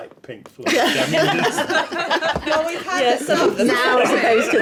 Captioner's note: laughing